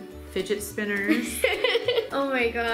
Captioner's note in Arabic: يضحك